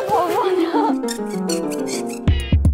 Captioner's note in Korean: 뽀각 뽀각